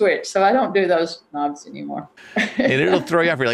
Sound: chuckles

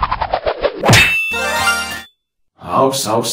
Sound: sword cut sound; pokemon shiny sound effect

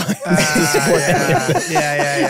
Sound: group laughing

